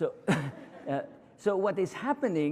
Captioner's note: laughter